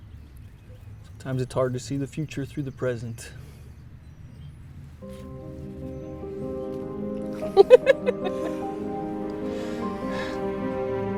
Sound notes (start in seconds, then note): 4.7 gentle music; 7.3 laughing